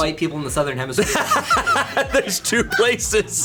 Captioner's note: and colleagues laughing